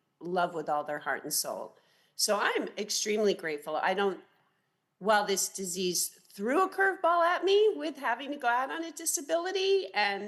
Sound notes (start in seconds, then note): none